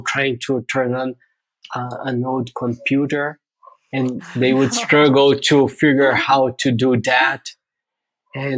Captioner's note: <Laugh>